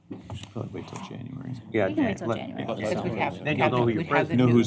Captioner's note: indistinct chatter